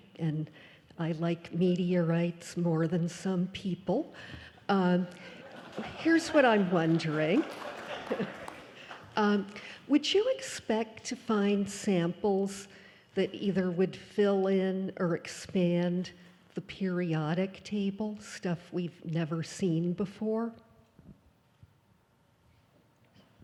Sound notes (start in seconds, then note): 8.3 audience laughing